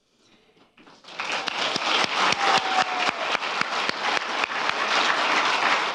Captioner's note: applause and cheers